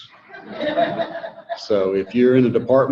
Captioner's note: audience laughing